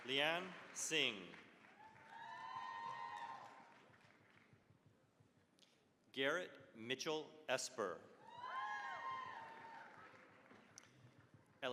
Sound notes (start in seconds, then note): 1.6 cheering, applause; 8.2 cheering, applause